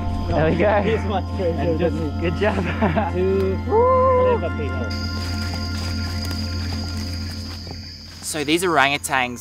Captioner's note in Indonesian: laugh